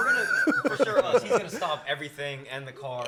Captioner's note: laughs